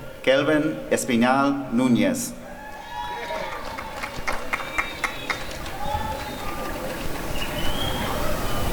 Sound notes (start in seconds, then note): 2.6 applause and cheering